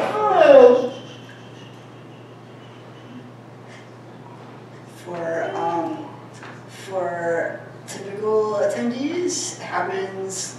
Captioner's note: shushing